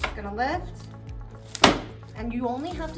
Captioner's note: headpiece thunking